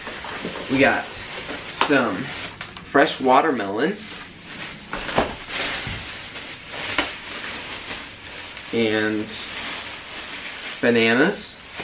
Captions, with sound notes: We got some fresh watermelon. [plastic crinkling] And bananas.